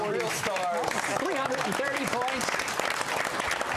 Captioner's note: applause